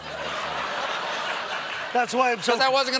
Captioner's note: laughter